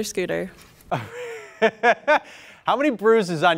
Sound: laughs

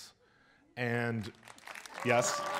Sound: audience applauds

